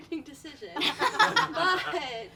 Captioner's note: all laughing